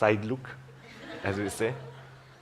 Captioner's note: laughter